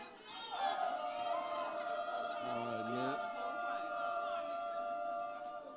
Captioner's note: audience members vocalizes